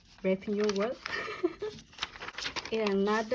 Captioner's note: nervous chuckle